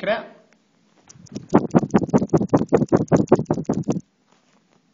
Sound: sound of phone shaking to end session

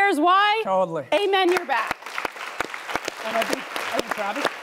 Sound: audience applauding

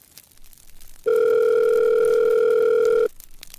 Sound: phone ring

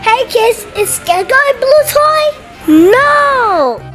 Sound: none

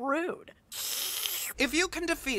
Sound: slurps dirt

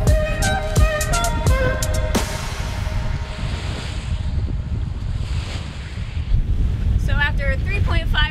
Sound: waves sounds

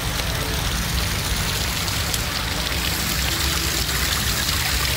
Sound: water bubbling

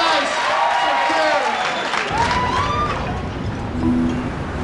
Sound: cheers and applause

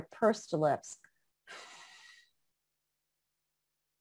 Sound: sighing

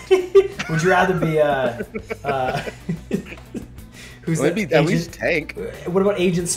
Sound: laugh

